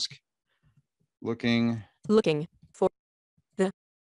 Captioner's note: computer Voice